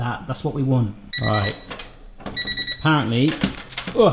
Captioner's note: oven beeps